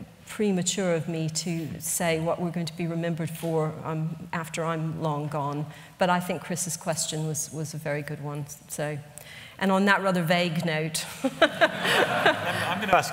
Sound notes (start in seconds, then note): 11.1 laughter